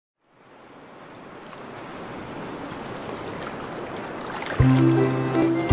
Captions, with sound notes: [SEASIDE WAVES] with Fiona Fish Finger and friends